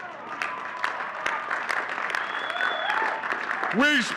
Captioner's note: audience cheering and clapping